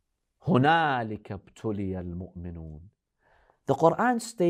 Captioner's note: Arabic